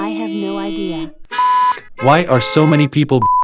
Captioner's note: car horns honking